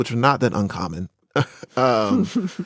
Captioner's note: laughs